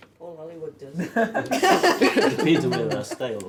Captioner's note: laughing